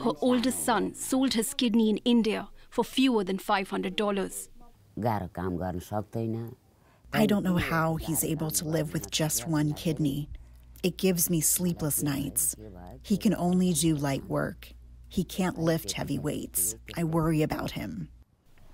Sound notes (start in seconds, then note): 4.5 through translator